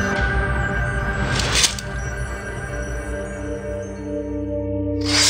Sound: sword clinks

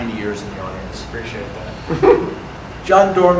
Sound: audience laughter

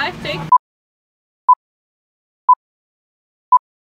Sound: beeping

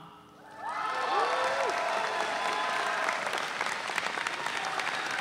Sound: audience cheering

